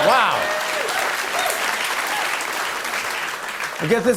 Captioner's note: applause